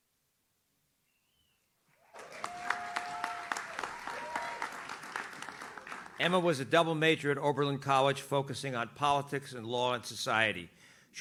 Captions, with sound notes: (audience cheers) Emma was a double major at Oberlin College, focusing on politics and law and society.